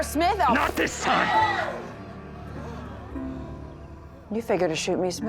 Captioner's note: women screaming